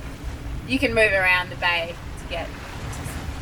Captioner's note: water splashing